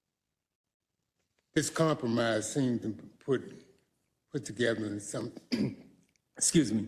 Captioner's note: cough